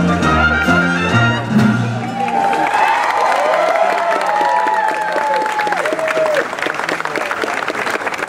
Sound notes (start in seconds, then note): 0.0 patriotic themed music; 1.8 audience cheers